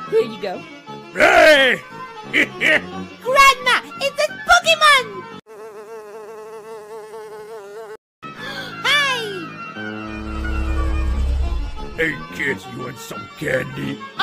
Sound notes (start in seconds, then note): 8.3 gasp